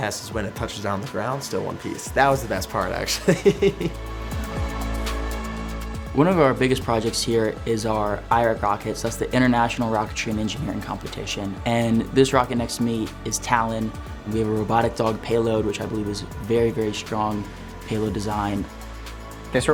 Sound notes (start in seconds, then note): 3.1 laughs; 4.6 light music continues